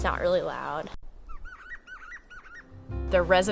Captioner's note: gray Jay whisper sounds